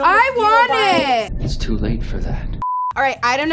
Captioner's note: beep